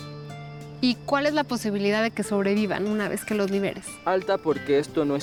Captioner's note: Pati speaking Spanish; speaking Spanish